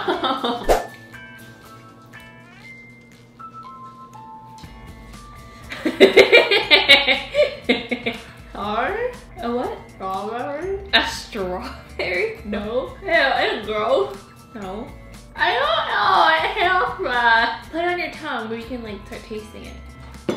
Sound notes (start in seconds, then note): 0.4 laughing; 0.6 slide swooshing; 1.8 soft upbeat instrumental music; 5.8 laughing loudly; 20.1 food banging